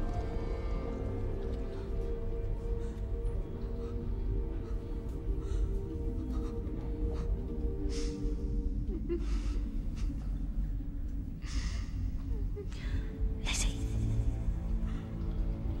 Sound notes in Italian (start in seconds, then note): 2.6 piange